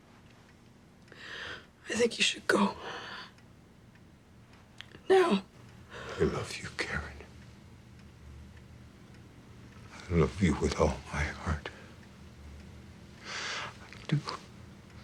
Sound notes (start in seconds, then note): none